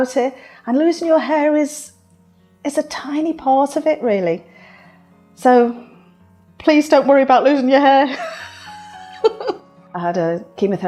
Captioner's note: laughs